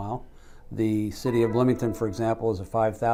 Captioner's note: computer beeps